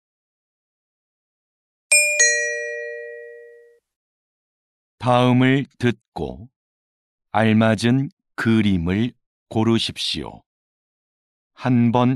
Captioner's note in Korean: 딩동